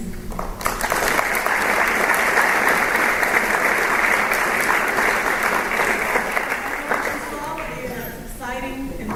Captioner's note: applause